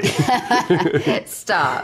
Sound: laughing

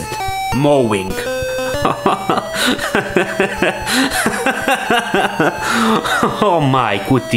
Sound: he laughs in disbelief

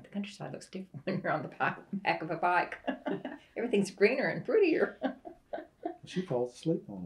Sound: laughs

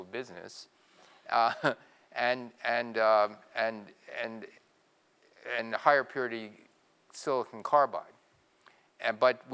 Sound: laugh

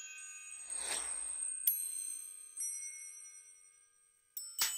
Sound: bells tinkling

